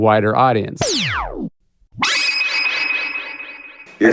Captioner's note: chime